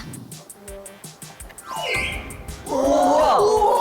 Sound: 1. dolphin sound